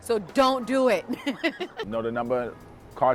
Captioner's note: laughs